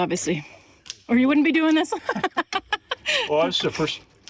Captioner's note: laughs